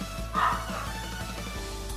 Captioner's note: guau guau